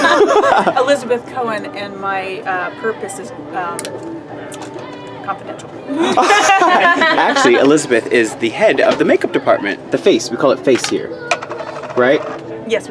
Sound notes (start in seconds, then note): 5.8 laughs